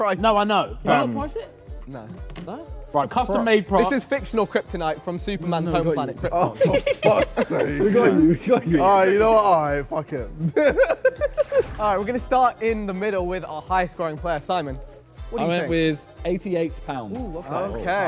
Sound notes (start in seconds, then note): 6.5 Sidemen laugh; 10.4 laughs